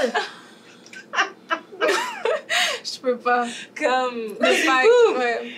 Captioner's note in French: rires